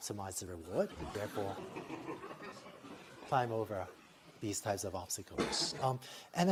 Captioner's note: laughter